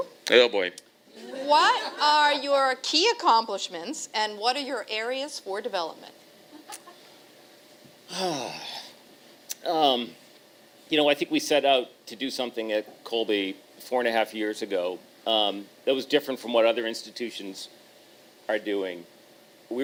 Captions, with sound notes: Oh boy. [laughter] What are your key accomplishments, and what are your areas for development? I think we set out to do something at Colby four-and-a-half years ago, that was different from what other institutions are doing.